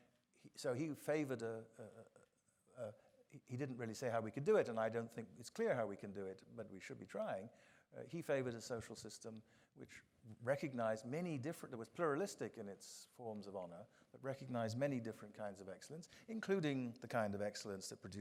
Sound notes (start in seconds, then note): none